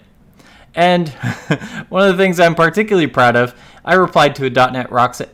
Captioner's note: laughs